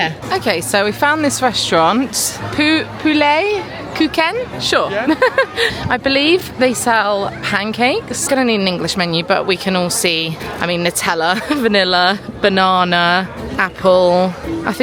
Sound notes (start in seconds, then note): 5.0 chuckling